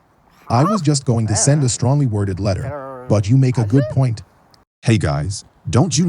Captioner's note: speaking foreign language; also speaking foreign language